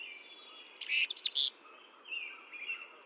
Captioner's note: birds chirping